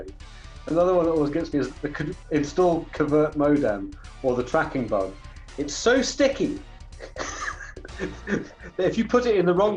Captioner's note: laughs